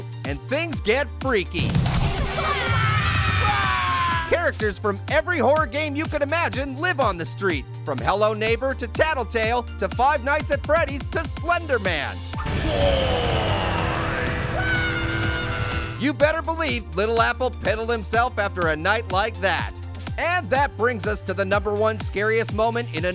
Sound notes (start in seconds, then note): 2.2 characters screaming; 14.6 Little Apple screams